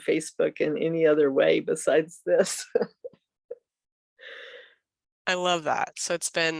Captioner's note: chuckles